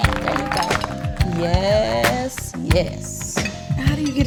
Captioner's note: audience cheering